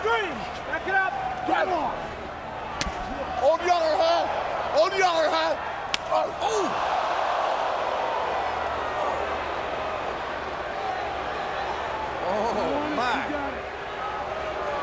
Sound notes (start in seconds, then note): 5.9 strike smacks; 7.3 crowd clamoring